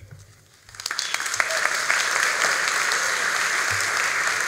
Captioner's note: all applauding